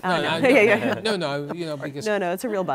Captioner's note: laughter